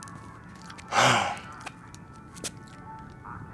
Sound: sighs

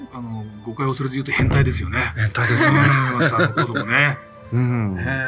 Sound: laughs

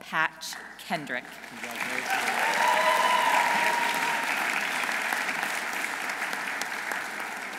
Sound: audience applauding; audience cheering

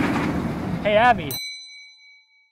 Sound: roller coaster rumbling; ding

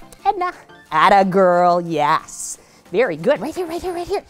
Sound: kissing sounds

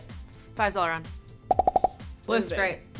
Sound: emojis popping

